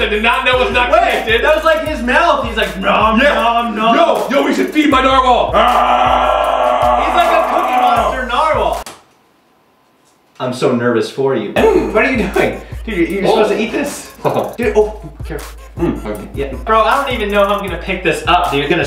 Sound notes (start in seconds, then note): 5.6 shouting; 13.8 chuckles